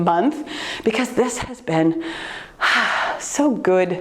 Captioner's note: sighs